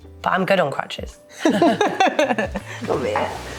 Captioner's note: both laughing